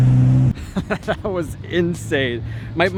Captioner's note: laughs